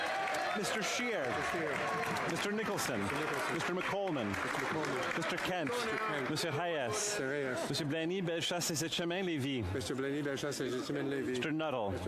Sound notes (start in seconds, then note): 5.5 cheering and Applause